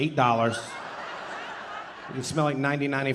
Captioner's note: audience laughing